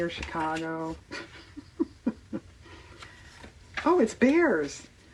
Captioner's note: laughs